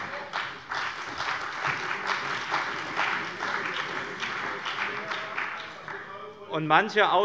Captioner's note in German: Beifall bei dem BÜNDNIS 90/DIE GRÜNEN und der CDU